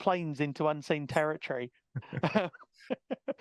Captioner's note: laughing